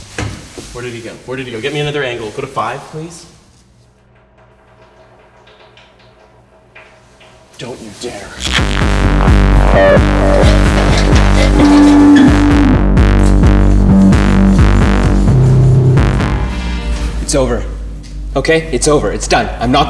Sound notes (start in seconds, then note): 6.1 urine splashing; 8.1 electric feedback